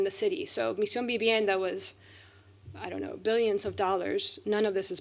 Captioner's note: speaking spanish